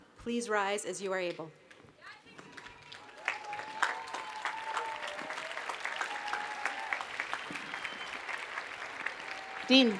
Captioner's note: cheering and Applause